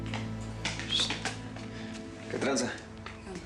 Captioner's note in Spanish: silbido